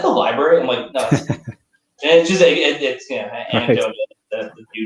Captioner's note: laughter